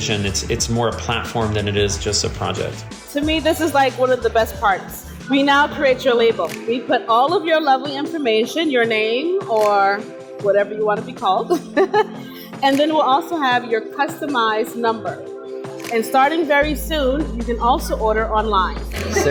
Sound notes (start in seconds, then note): 11.5 laughs; 18.9 laughs